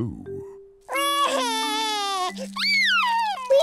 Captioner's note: wailing